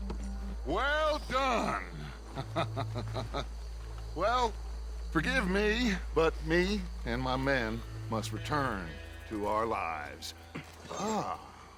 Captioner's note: laughs